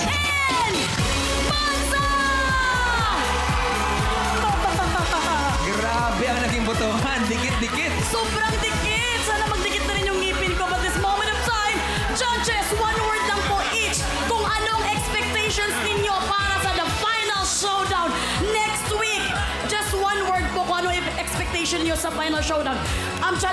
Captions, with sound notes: And Manza! - [APPLAUSE, CHEERING] - [MELAI LAUGHING] The votes were so close to each other! It really was. I want that for my teeth, too. But in this moment in time, let's hear from our judges. What are your expectations for our final showdown next week? One word on your expectations for the final showdown.